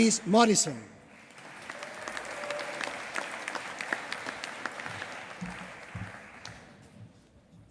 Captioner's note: applause